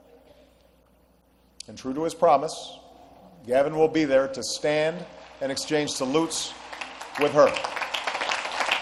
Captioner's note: applause